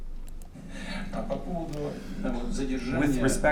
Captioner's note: speaking russian